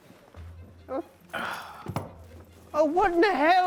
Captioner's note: Dutch groaning; Zeke groaning